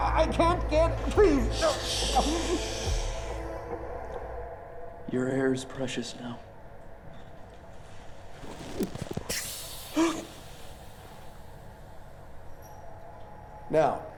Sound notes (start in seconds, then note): 8.0 mask peeling off; 8.7 air releasing; 9.3 sharp inhale